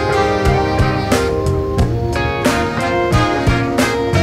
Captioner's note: engine revs